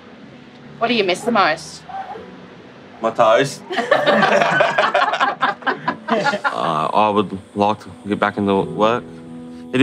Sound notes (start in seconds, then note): 3.6 everyone laughing